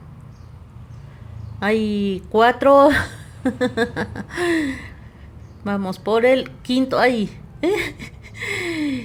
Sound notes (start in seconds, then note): 3.0 laughs